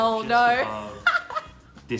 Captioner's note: laughing